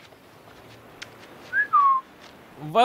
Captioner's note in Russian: Свист